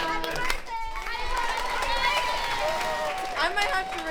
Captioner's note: applause